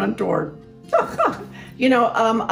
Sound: laughs

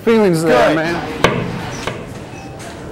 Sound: knocking sound

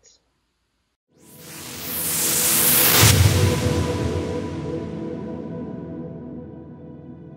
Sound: whooshing

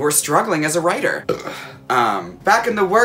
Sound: burps

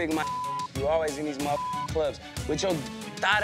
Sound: beep

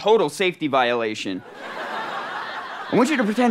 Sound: audience laughter

